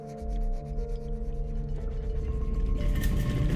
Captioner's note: rattling